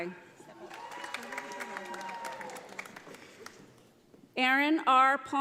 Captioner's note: audience applauding